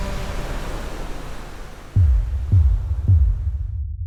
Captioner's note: waves crashing; ominous music